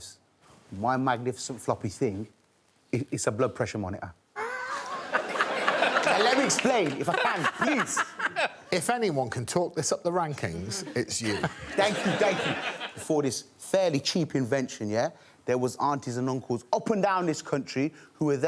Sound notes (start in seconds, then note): 4.4 all laughing